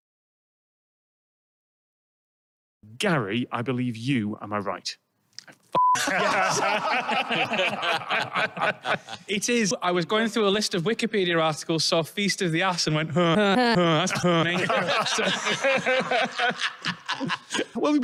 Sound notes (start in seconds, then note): 0.1 awkward Silence; 6.0 everyone Laughs; 14.7 laughter